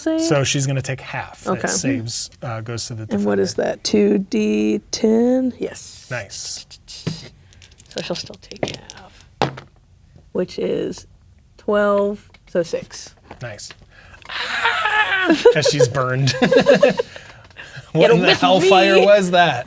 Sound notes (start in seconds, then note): 7.5 dice rolling; 14.3 imitates Jimora screaming; 14.3 laughing; 16.8 both laughing; 19.4 laughs